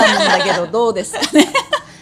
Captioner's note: laughs